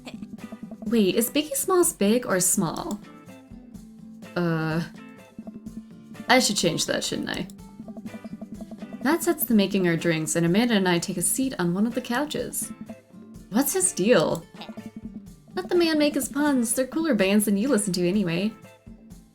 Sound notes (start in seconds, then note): none